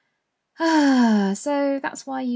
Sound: big sigh

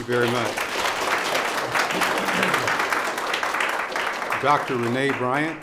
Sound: audience applause

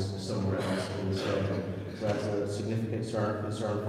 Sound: speech drowned by coughing

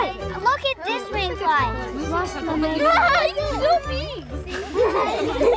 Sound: students laugh and chat

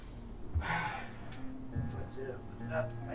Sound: Rayleigh sighs

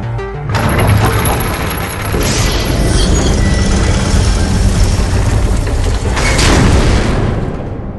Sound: ship's door closes

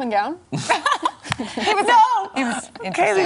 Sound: laughter

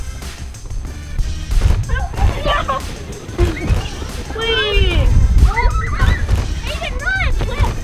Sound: fun shouting and laughter

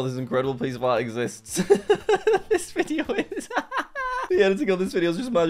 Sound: laughs

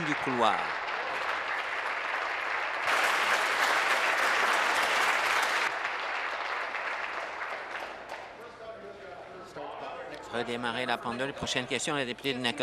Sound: applause

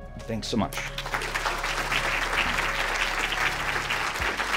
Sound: audience applauds

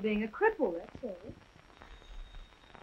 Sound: phone rings

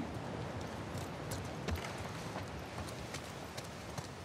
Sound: none

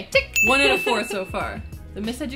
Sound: laughs

